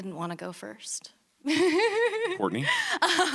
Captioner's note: laughs